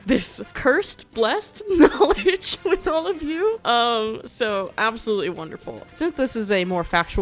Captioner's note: laughs